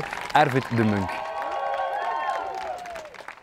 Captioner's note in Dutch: applaus